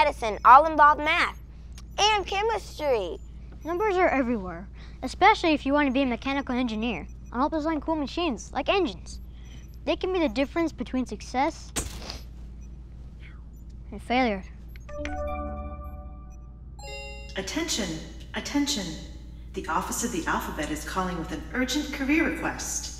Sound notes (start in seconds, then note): 13.1 snaps; 14.9 chimes